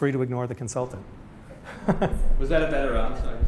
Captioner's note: laughs